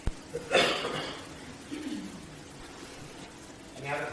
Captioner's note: cough